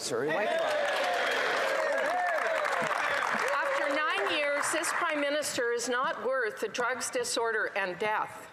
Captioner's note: some Applause